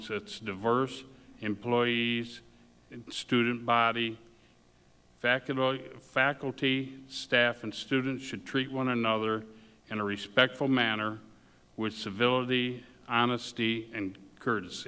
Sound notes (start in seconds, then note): none